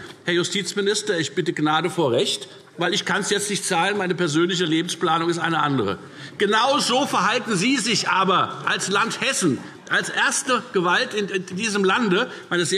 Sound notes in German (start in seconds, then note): none